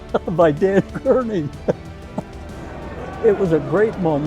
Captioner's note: laughs